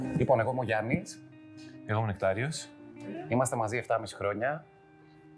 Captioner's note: non-english speech